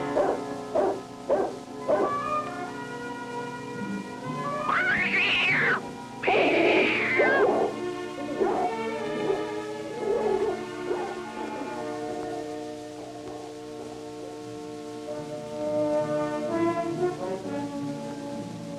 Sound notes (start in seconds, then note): 4.9 dog growling; 6.2 cat screeching; 9.1 dog barking; 15.9 suspenseful instrumental music